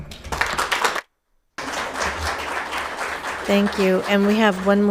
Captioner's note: audience applauding